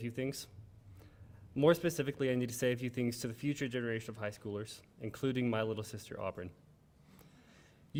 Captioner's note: none